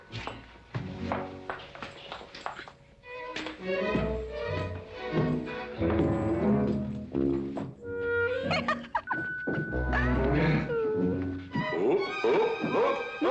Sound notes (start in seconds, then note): 8.3 giggling